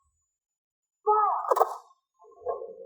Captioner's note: gunshots